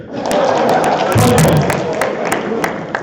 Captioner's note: applause and laughter